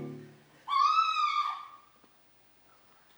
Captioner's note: scream